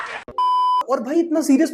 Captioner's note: laughter; beep